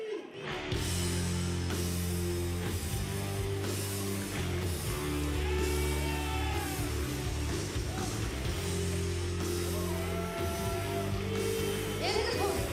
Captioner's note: crowd chatter